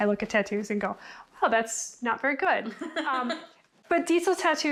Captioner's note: laughs